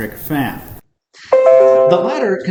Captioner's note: laptop chiming